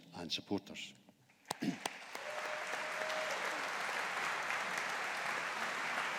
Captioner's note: audience applauding